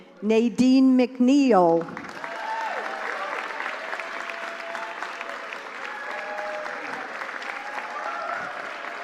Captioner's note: applause